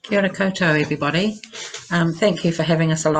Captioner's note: speaks foreign language